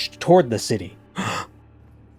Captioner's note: gasp